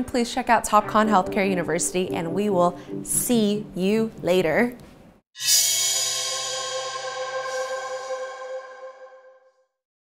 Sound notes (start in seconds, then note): 5.4 graphic swooshing